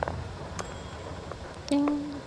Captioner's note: coffee dings